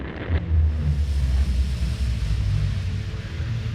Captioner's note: dramatic noise